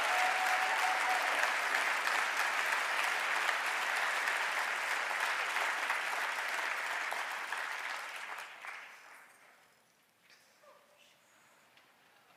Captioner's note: cheering and applause